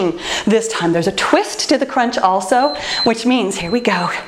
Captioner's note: timer beeps